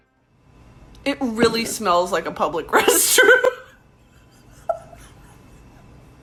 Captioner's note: laughs